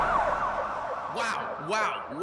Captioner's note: police sirens